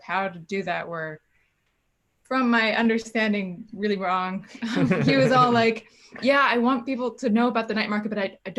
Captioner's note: laughs